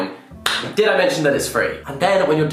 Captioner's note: clapping